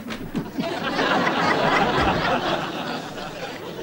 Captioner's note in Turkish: Gülme efekti